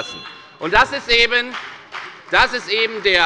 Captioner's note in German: Beifall bei der FDP